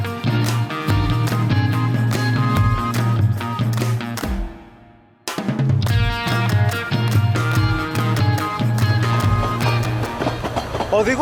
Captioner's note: applause